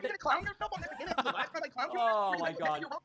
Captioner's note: laughing